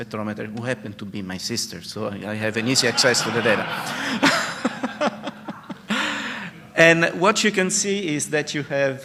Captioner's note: laughter